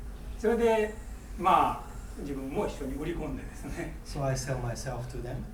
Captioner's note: speaking in foreign language